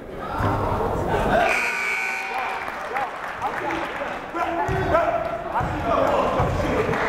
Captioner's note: buzzer blaring; clapping